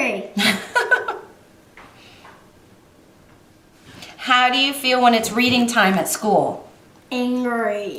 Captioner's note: laughs